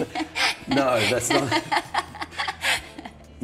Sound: laughs

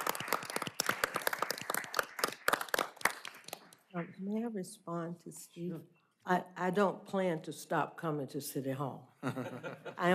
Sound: applause

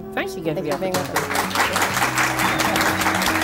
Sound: applause_

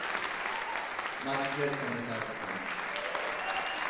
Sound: applause drowns speech

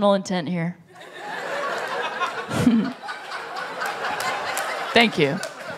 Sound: laughter

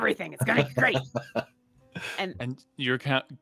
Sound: laughs

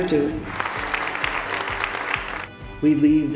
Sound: applause

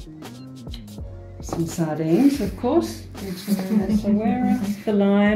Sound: laughing

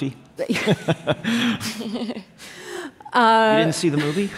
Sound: laughter

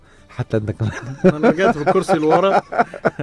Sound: laughs!

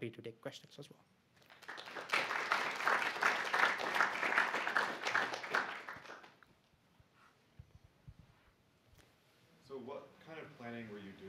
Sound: applause

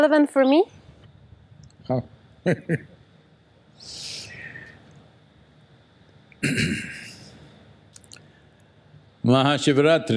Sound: laughs

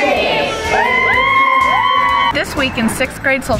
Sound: cheering

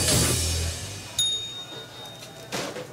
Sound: ding; loud chatter

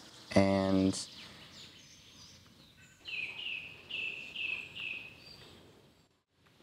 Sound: birds chirping

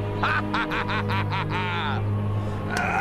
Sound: laughing

